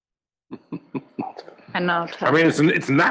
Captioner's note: laugh